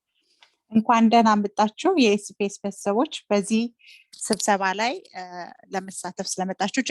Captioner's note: speaking Arabic